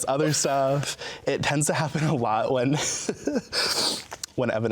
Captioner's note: laughs